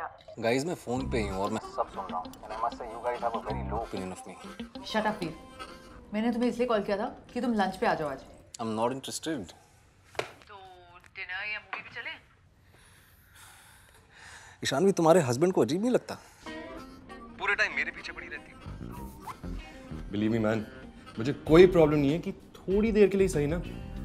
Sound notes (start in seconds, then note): 12.8 sighs; 18.7 chuckles